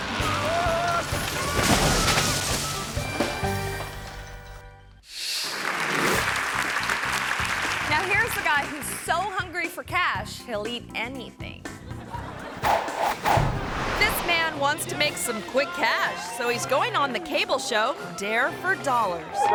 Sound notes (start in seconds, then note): 5.4 audience clapping; 11.8 audience laughing; 12.6 air whooshes